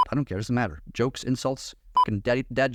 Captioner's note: beep